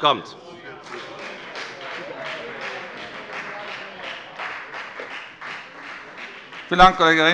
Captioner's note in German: Beifall bei der FDP